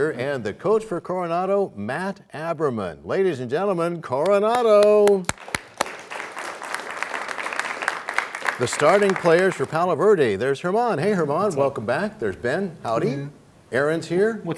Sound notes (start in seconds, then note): 4.4 applause